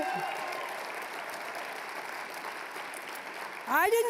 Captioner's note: applause; applause, cheering